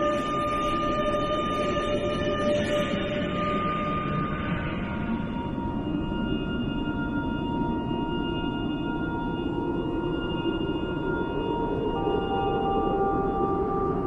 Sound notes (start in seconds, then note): 9.2 wind howls